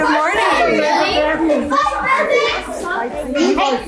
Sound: family chatters excitedly

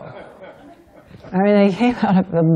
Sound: laughter

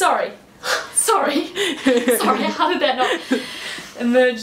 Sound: giggling

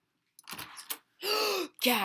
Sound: gasp

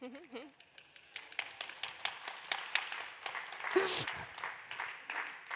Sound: applause

